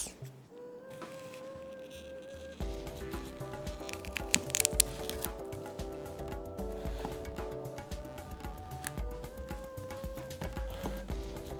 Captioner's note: the sound of cutting